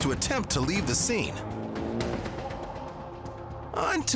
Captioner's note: engine revs